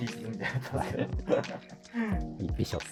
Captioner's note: laughing